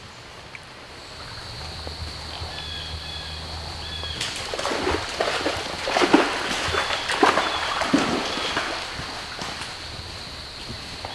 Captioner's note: water noises; insects / birds